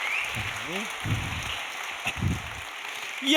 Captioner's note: audience applauding